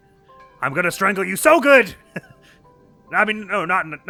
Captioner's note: chuckles